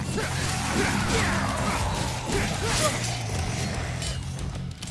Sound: enemy growling; character grunting

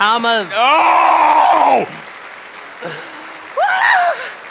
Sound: yelling

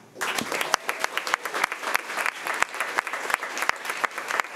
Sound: crowd clapping

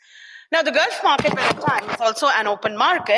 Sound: microphone noise overcomes speech

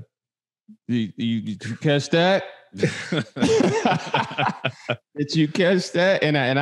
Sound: all laughing

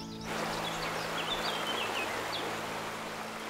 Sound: water rushing

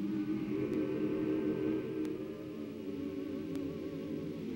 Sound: humming

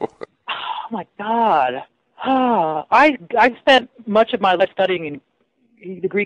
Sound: sighs

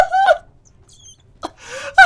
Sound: laughter intertwined with squeaking; squeak

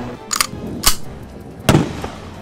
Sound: gun cocks; gunshot

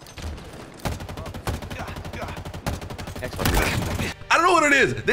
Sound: gunshots sputtering

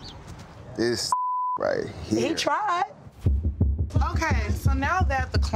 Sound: beep

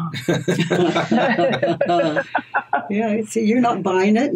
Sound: everyone laughs

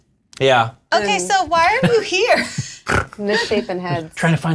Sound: snort

